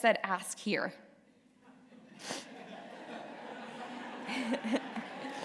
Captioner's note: laughter